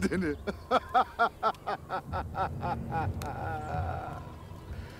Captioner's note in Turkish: Karakoncolos gülme sesi